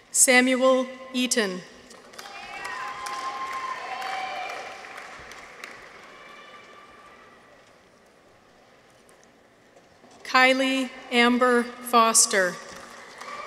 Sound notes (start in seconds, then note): 2.1 audience applauds; 2.2 people cheer; 12.8 audience applauds; 12.9 people cheer